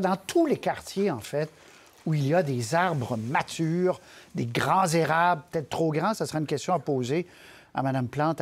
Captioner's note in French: fracas; craquement de branche